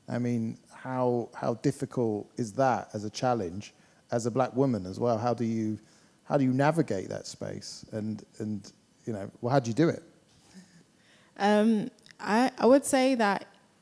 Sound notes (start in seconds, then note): none